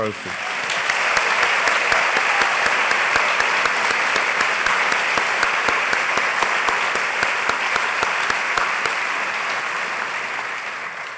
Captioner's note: applause